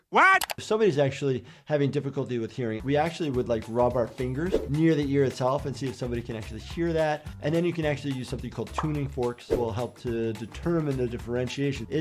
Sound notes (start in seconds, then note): none